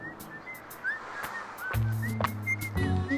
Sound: whistling

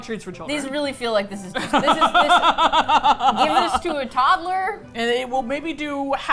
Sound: laughs

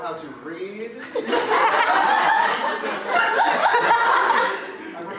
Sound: audience laughter

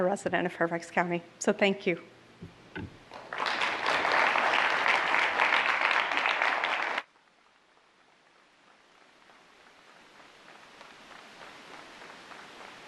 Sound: applause

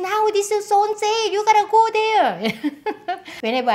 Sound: laughs

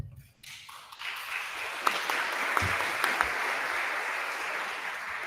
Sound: attendees applauding

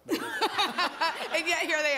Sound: laughter

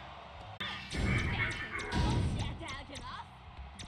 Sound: fuking demon noises!!!!

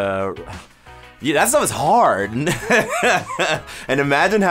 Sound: laughs

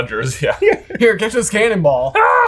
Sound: laughs

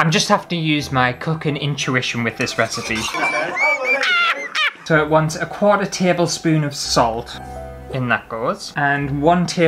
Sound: laughter

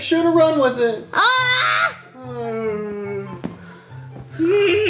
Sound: frustrated yell

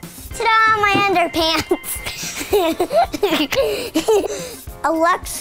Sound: laughs

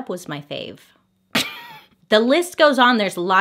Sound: laughs

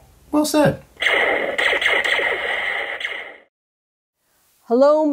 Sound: machine chirping; machine blastering

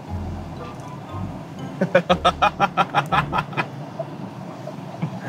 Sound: laughing

